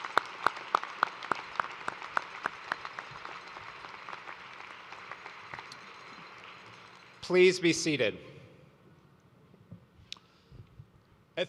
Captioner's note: applause